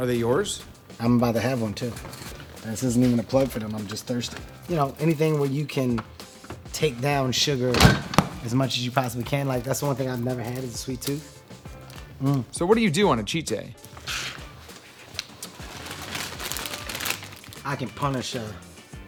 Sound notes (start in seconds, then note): 13.8 bag rustling